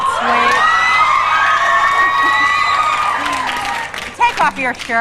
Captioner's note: audience cheering